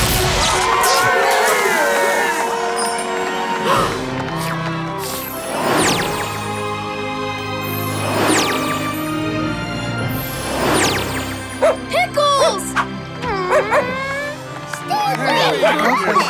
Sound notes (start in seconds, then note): 0.0 cheering; 3.3 gasping; 13.4 barking; 15.0 cheering